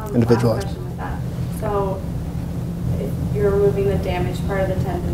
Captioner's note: voiceover